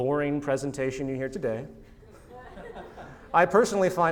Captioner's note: laughter